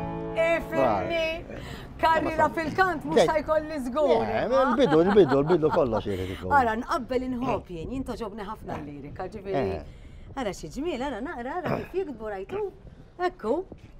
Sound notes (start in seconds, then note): 4.1 laughs